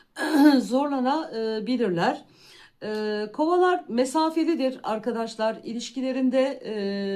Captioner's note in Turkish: boğazını temizler